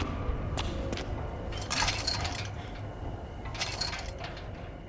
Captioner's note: tense music; gate clinking